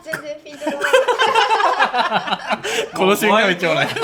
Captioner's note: laughter